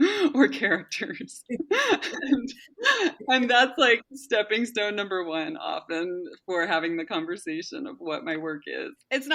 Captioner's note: laughs